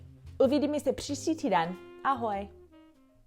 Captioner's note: speaking in Czech